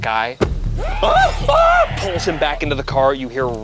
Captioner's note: yells